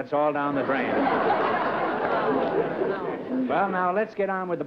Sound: laughter

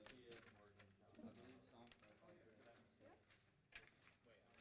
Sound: none

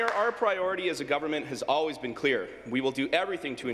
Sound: applause

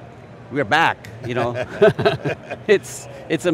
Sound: both laugh

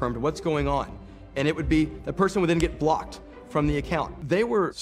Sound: snap

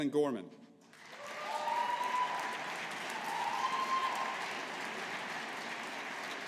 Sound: audience applauding

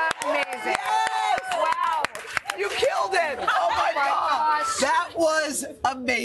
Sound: applause

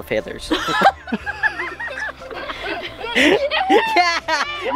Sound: laughing

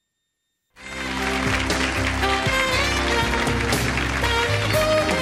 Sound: crowd applauds and cheers

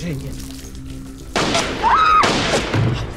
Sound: screaming; gunshots

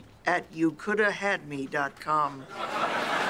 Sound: cheering and applause; laughter

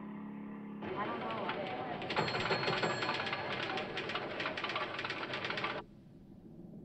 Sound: chattering; bell Rings

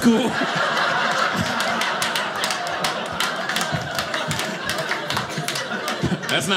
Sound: audience laughing

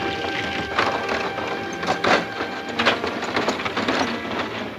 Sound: wood creaking

